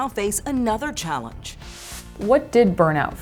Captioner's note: transition whooshes